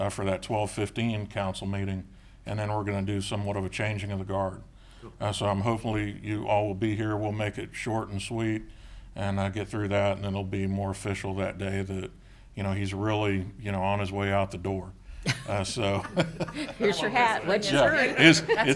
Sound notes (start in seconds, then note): 15.2 laughing